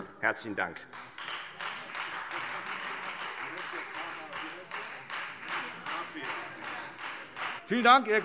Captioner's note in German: Beifall Freie Demokraten